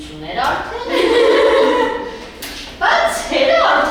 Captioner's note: laughing